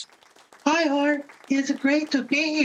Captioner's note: audience clapping